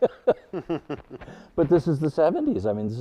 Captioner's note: panelists laughing